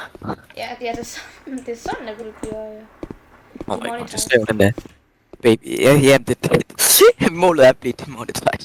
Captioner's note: laughs